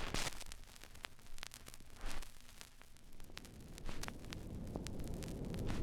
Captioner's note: vinyl Record Dust Sound; light Wind Sound